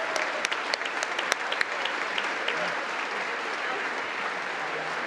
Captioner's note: congress applauding